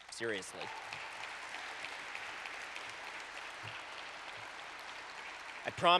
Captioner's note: applause